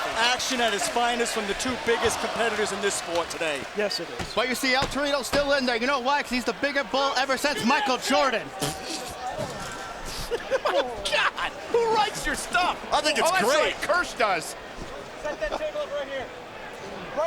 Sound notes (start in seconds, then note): 9.7 laugh